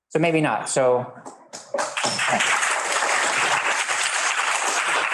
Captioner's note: students applauding